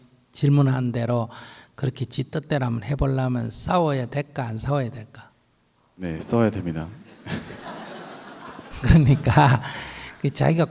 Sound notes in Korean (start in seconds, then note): 7.0 질문자 / 청중 웃음